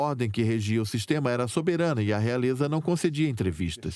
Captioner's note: voiceover